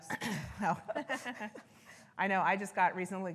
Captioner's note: presenters laughing